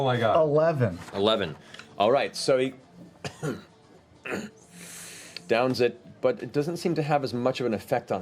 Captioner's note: slight cough; grunts